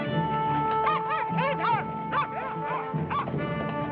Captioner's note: dog barking